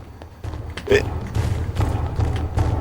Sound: hiccup

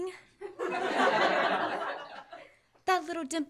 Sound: laughter

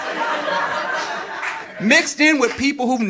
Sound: audience laughing

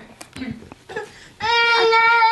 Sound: baby Crying

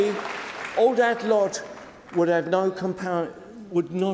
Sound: applause

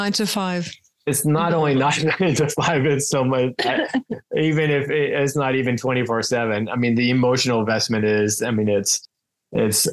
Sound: laughs

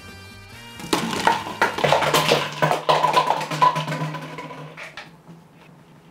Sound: falling bottles

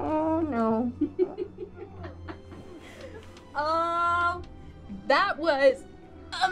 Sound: laughing

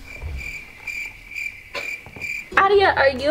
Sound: crickets chirping

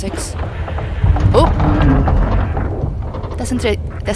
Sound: is that a pipe creak

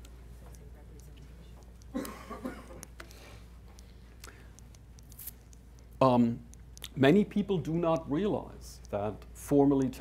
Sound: audience chuckling

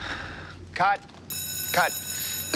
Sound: deep exhale; bell ringing

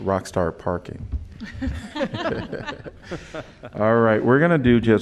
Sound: laughter

